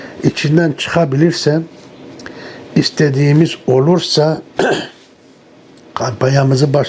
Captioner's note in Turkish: boğazını temizler